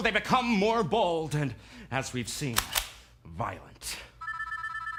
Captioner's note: cocks gun; ding-a-ling its a phone